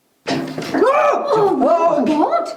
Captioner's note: screams